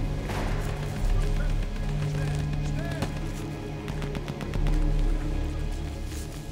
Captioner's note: Von Rohr shouting in foreign language